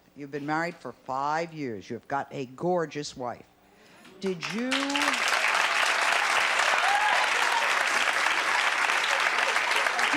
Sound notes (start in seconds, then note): 4.2 audience applauds